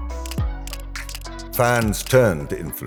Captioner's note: camera clicking